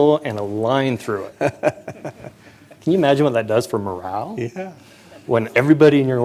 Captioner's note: laughter